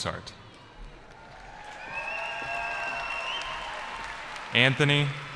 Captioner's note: cheering